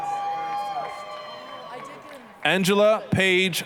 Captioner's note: applause, cheering